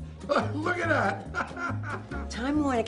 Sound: laughs

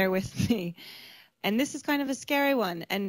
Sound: laughs

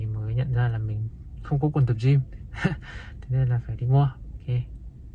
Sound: short pants

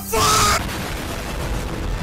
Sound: boom

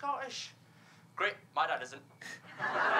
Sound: laughter

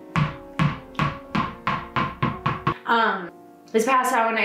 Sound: dog ball bouncing

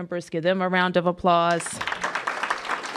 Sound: applause

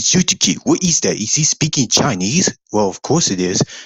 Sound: being a little sarcastic

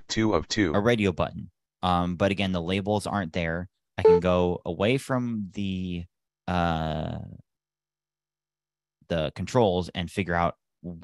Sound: beep

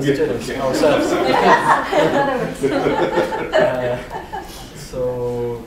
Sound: laughter

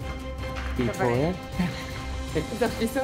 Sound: chuckles

